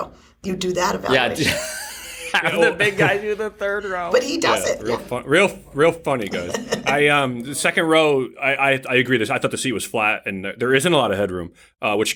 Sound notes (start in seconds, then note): 1.3 laughter